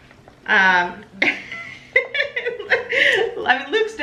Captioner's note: laughs